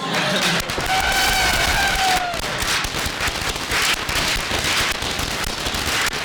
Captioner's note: cheering and applause